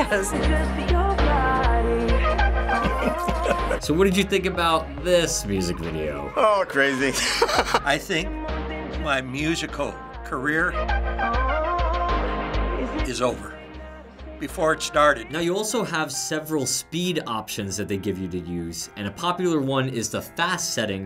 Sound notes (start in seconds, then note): 2.7 snickering; 6.8 laughing